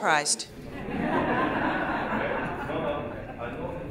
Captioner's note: laughing